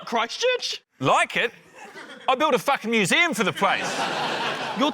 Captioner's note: laughter